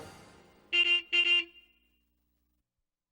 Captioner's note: horn beeps